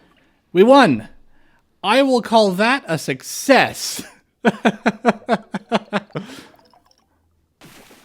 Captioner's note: laughter